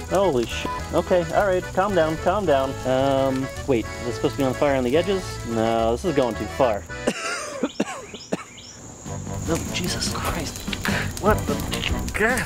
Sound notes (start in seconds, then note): 6.9 coughing